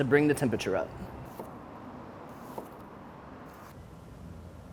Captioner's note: knife chops